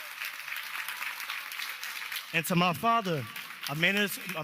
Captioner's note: cheers and applause